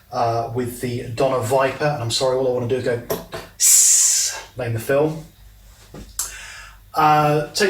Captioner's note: snake sound